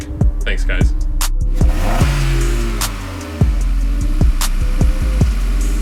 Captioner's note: car engine revving; upbeat music